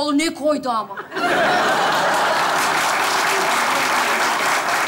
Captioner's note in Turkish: Kahkaha ve alkış sesleri